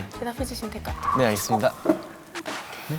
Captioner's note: Scratch